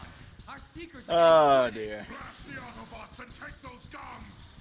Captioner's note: laughs